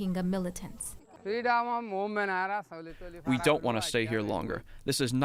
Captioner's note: through translator